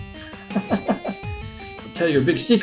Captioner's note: chuckles